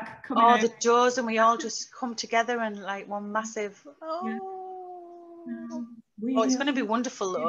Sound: awwww noise

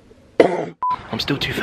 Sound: coughing; beep

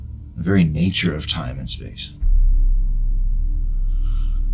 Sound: sighs

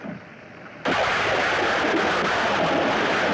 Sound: thunder Rumbling

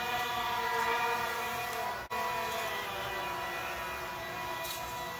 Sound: huming of propellers

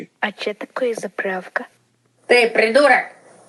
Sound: in russian accient

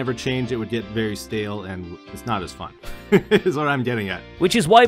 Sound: laughs

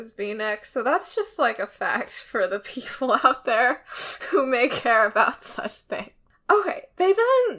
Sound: laughs

